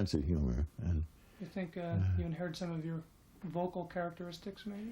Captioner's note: voiceover